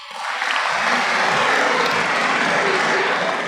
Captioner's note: applause